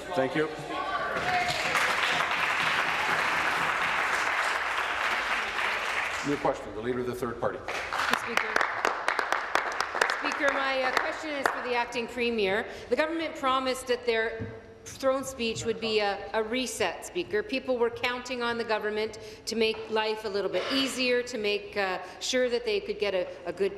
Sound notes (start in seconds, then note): 5.9 applause